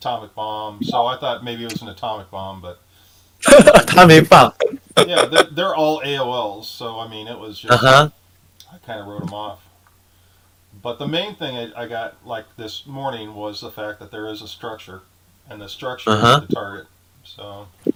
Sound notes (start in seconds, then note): 3.4 laughing; 4.4 speaking in foreign language